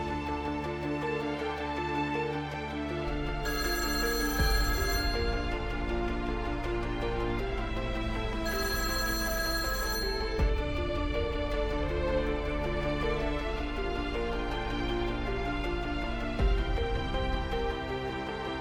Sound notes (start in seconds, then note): 3.4 phone rings; 10.3 intense music